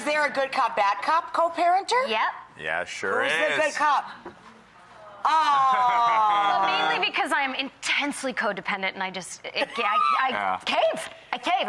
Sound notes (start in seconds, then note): 4.5 audience awing; 5.7 laughing; 9.6 laughing